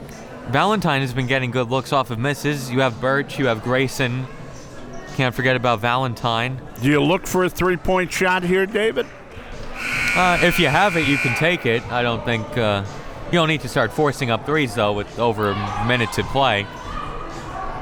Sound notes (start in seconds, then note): 9.8 buzzer ringing